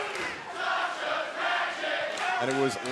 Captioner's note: fans chanting